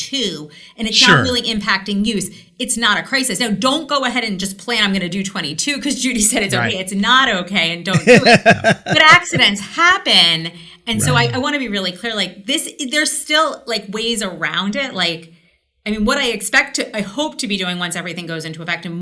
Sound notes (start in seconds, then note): 7.9 laughs